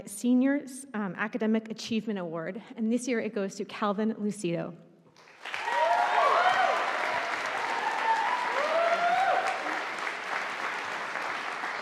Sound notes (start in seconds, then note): 5.2 audience applauding